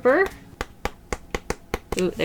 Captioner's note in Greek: Ξεφύλλισμα χαρτιού